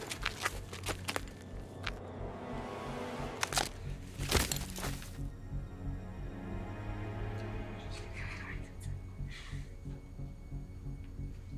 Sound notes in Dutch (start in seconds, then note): 7.9 mompelt